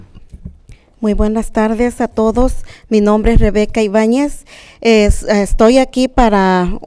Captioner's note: speaking in a foreign language